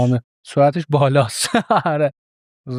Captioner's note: laughs